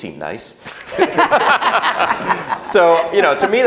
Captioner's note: laughing